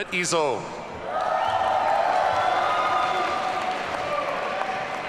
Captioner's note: audience cheering